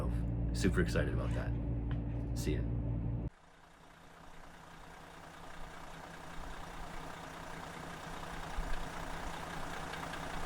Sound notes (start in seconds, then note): 4.0 engine running